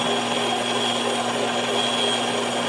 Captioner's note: whisking